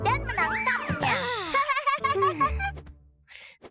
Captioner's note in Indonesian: Pinkfong tertawa